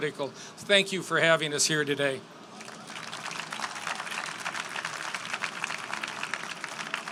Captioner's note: applause